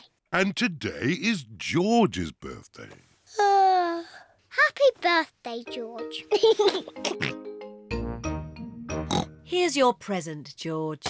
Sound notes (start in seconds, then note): 3.0 yawns; 6.3 laughs and oinks; 9.0 oinks